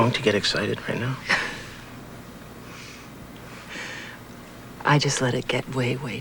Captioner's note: chuckles